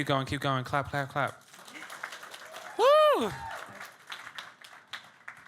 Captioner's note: audience clapping and cheering